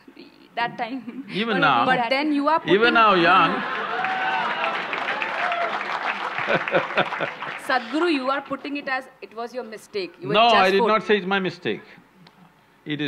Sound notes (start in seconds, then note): 1.0 laughs; 2.7 laughs; 3.2 cheers/Applause